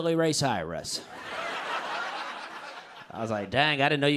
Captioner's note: laughter